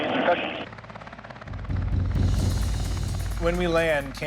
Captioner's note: chatter on radio; intense music